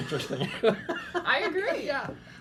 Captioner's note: laughing